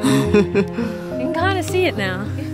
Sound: laughs

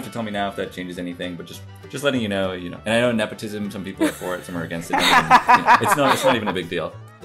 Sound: laughter

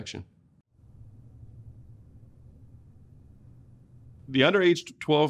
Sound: silence

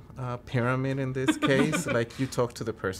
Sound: laughs

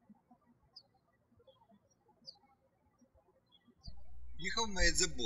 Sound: birds chirping

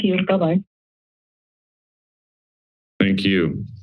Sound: silence

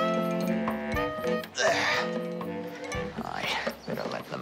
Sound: grunts

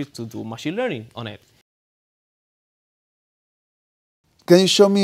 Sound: silence

